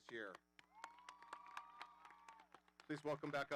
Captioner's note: audience applauding